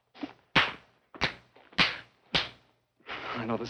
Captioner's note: slapping